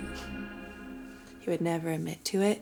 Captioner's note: chuckles